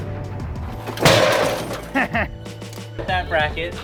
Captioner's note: metallic clanking